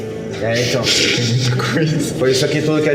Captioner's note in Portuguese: risadas